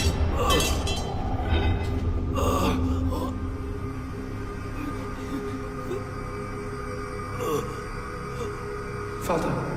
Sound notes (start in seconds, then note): 2.4 Philip groans